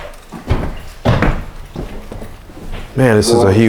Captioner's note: footsteps